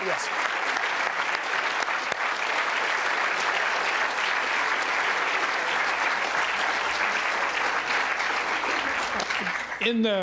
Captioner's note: applause